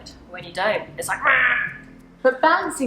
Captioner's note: angry noise